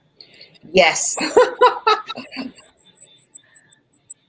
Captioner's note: laughs